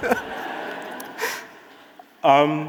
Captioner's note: audience laughing